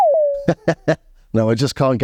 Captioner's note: laughs